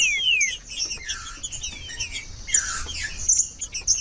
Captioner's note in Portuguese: trinca ferro cantando